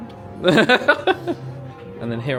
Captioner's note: laughs